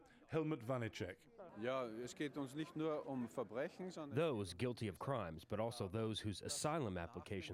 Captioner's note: through translator